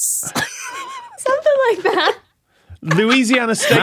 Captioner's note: wheezes